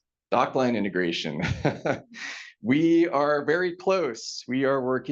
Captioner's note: laughs